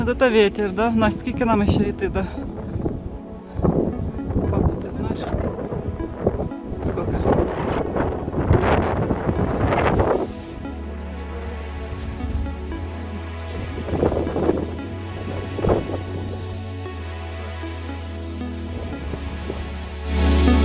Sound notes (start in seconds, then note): 8.6 strong wind